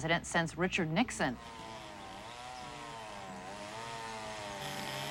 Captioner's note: chainsaw buzzing